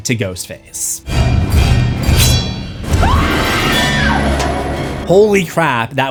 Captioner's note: screams